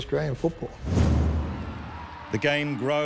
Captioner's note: crowd cheering